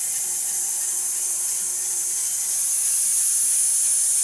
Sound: saw whirring

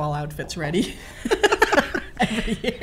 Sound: laughter

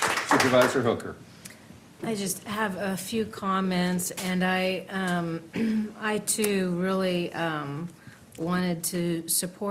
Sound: applause

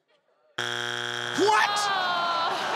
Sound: machine buzzes

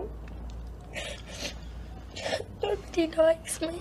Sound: sniffles

